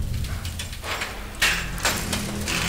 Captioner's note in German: Metallisches Klirren